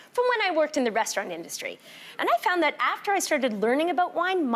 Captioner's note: none